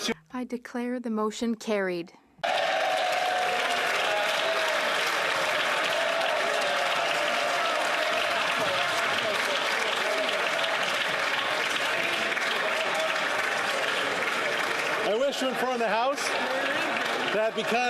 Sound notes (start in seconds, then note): 7.2 applause